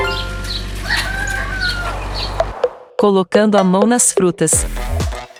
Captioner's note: notification; birds; harvester engine; rooster crowing